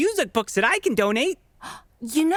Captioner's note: gasps